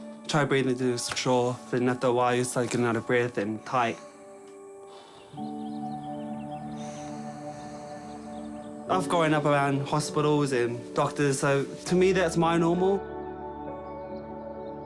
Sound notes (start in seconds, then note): 5.2 birds twitter